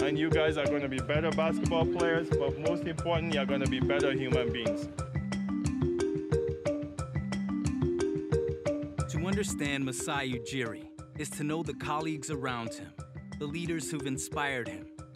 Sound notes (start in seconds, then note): none